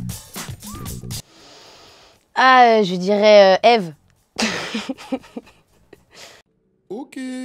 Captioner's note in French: Rire